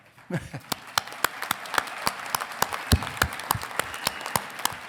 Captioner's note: congregation clapping